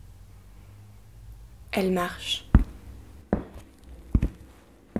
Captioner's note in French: Bruit de pas